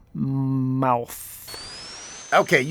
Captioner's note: Spin Dash whooshing